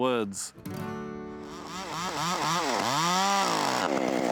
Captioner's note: saw buzzes